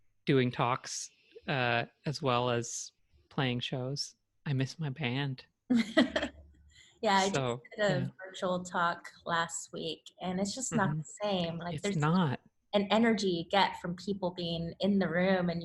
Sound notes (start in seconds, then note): 5.7 chuckles